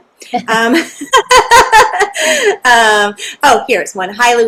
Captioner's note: laughing